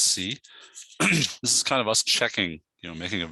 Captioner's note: clears throat